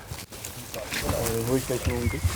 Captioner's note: commotion